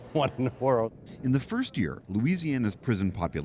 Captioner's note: laughter